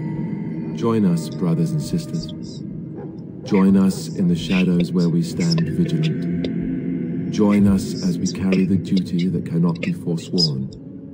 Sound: Whispering along with Alistair

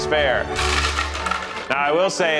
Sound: ice clatters

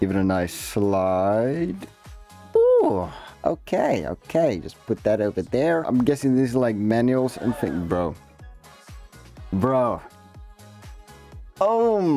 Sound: gasp

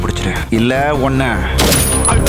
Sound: gunshot

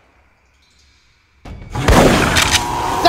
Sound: gunshot Sound

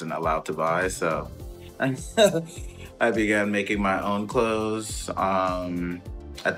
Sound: laughs

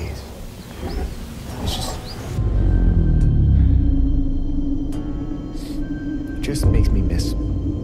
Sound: taking deep breath

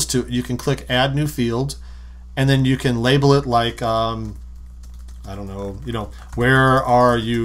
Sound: typing

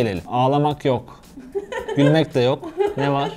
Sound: laughs

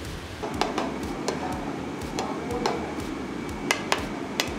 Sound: spatula clanking

